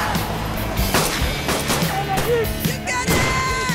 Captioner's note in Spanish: Disparos